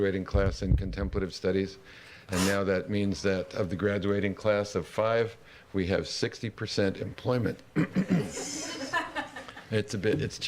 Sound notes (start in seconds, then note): 7.7 clears throat; 7.8 laughter